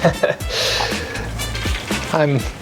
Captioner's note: laughter